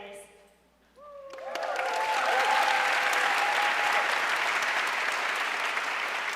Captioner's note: audience cheering and applauding